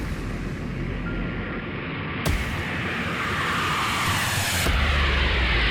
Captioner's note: plane engine roaring